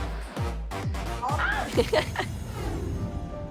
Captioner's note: gasps; giggles